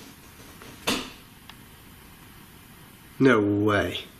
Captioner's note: metallic rattling